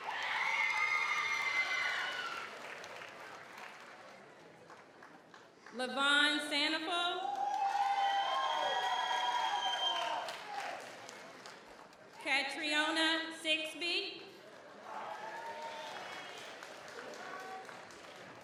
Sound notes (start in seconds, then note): 0.0 audience cheers; 0.0 audience applauds; 7.2 audience cheers; 7.2 audience applauds; 14.5 audience applauds